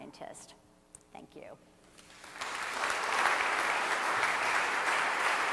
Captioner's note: audience applauds